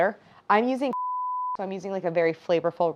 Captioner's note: beep